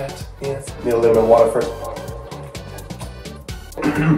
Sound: drinking

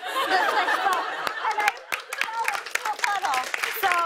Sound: laughter; cheers and applause

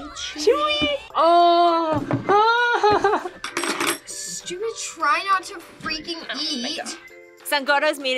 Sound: laughs

